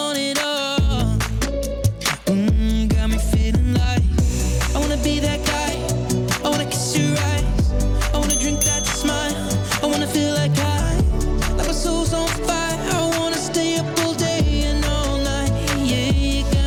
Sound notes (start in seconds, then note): 9.7 ding ding!